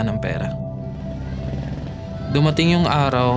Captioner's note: indistinct chatter